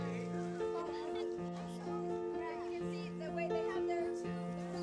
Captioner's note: kids chattering